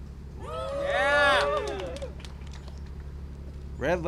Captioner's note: applause and cheering